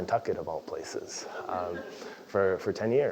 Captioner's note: laugh